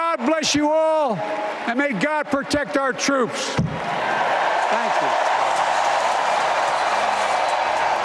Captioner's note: applause